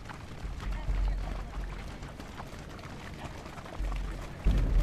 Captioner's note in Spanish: Sound marchando pies